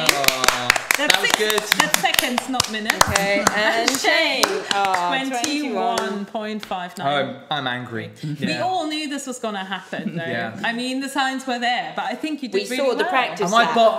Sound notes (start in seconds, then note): 0.0 ladies applauding